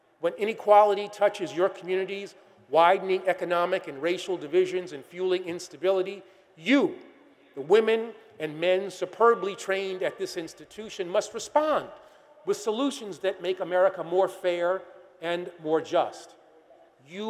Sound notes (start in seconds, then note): none